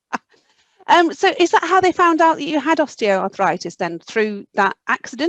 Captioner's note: laughs